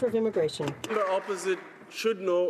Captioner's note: some Applause